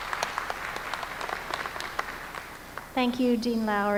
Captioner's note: applause